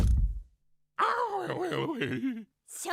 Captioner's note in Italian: Gemito di paura